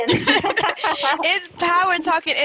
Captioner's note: laughter